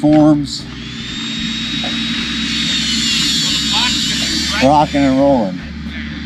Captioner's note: saw cutting